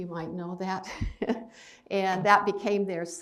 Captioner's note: chuckles